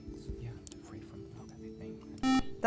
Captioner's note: buzzer